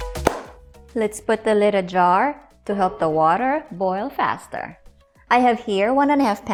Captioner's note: claps hands; clicks stove; lid thuds